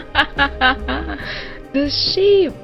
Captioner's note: laughter